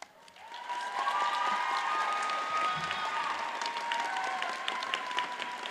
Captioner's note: audience cheers and applauds